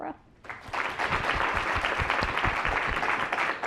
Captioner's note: applause